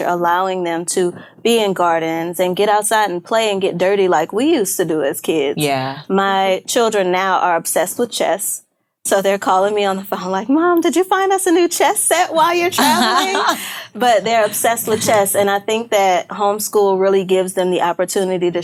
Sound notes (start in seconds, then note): 12.5 laughing